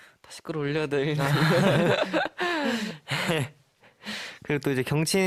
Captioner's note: tertawa